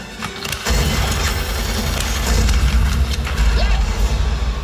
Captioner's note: heavy gunfire